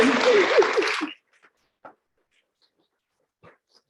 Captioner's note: applauding